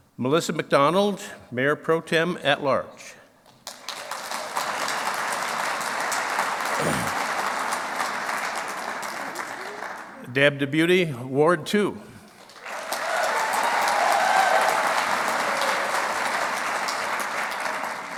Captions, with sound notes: Melissa McDonald, Mayor Pro Tem at large. (clapping) Deb DeBoutez, Ward two. (clapping)